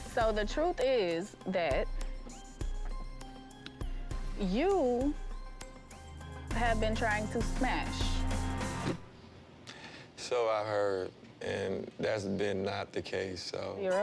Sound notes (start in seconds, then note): 3.8 tense music; 9.1 scoffs